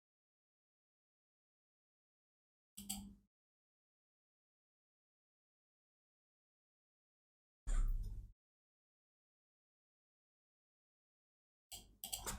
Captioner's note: blank Audio